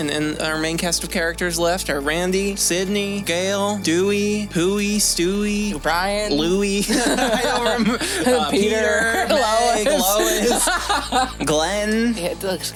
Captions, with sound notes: And our main cast of characters left are Randy, Sidney, Gale, Dewey, Pooey, Stewie, Brian, Louie [Laughter] I don’t remember-- Uh, Peter, Meg, Lois, Glenn...